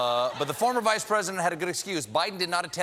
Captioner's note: laughter